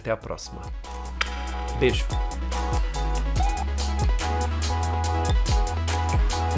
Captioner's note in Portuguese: som de beijo